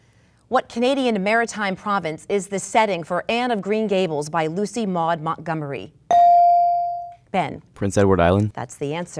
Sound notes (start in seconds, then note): 6.1 dinging